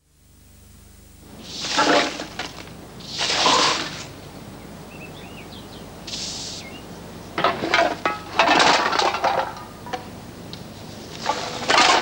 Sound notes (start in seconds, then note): 0.1 broom bristles swishing; 0.1 metal clattering; 4.2 birds chirping; 7.4 metal cans clattering